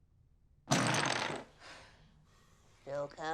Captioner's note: jenga pieces crash down